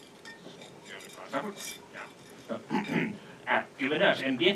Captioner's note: clears throat